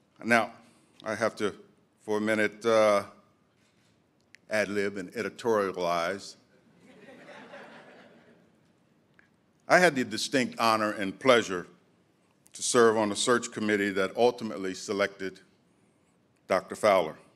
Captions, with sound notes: Now I have to, for a minute, ad lib and editorialize. (audience chuckling) I had the distinct honor and pleasure to serve on the search committee that ultimately selected Dr. Fowler.